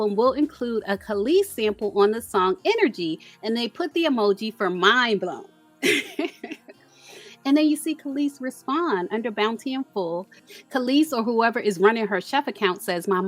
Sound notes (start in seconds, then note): 5.8 laughs